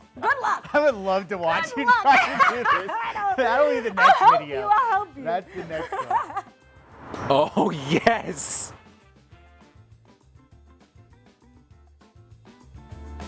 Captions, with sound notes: Good luck! - I would love to watch you try to do this. (laughing) - I know! I'll help you, I'll help you. - That'll be the next video. That's the next one. Oh yes! (upbeat music)